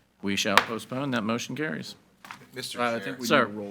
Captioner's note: gavel bangs